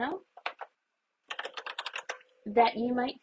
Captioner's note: more keys pressed